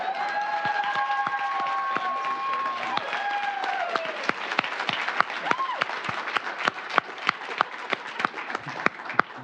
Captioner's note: applause; laughter